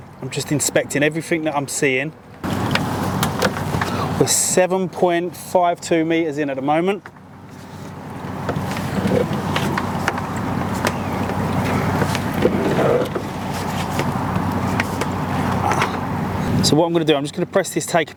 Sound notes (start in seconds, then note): 2.4 cable clattering; 8.4 cable clattering